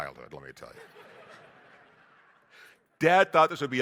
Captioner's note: audience laughing